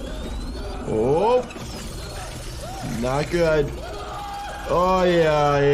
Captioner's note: character screaming